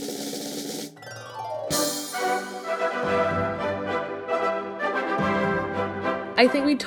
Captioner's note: drumroll; magical chimes; dramatic orchestral music